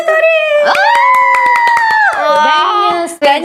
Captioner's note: wooooow